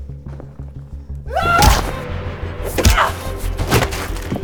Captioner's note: Taylor screaming; body thud